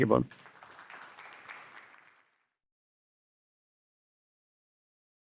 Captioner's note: audience applauds